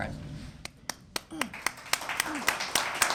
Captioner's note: applause